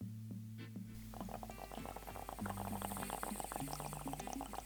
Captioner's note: bubbling noise from the bong